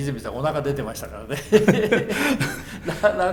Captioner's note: laughs